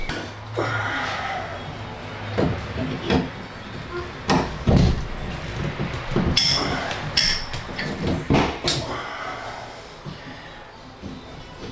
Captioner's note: grunting; clanging